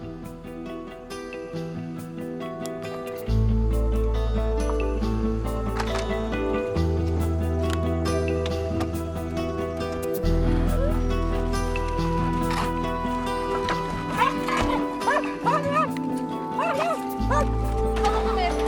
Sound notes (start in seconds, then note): 14.0 dogs barking; 18.1 speaking in a foreign language